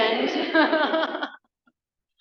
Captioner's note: laughs